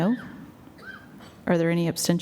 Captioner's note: silence